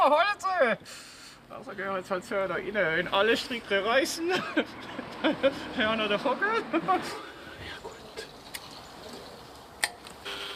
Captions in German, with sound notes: Hallo zusammen. Nun gehen wir halt da rein. (Lachend) Wenn alle Stricke reissen, haben wir noch den Vogel. (Flüsternd) Na gut.